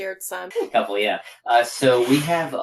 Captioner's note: laugh